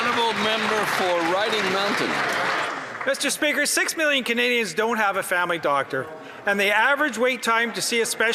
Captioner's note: applause